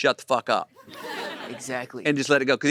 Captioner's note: audience laughing